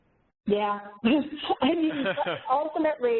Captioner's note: laughs